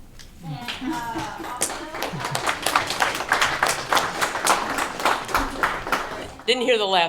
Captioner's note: applause